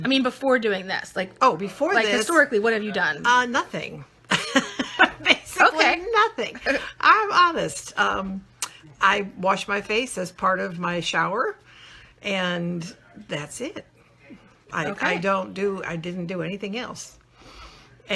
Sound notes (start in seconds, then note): 4.3 laughing